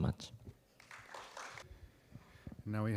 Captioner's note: applause